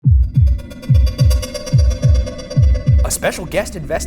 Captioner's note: the scraping sounds of tryna get that nut